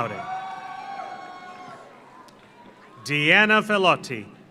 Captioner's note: audience cheers; audience applauds